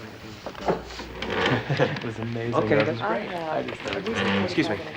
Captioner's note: students chattering